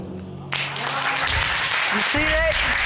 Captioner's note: audience applauds